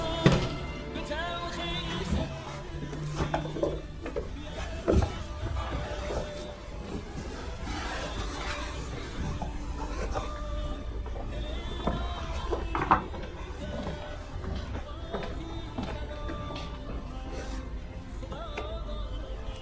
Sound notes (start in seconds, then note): 0.0 music playing in the room; 0.3 door closing; 2.2 rustling; 5.6 music playing in the room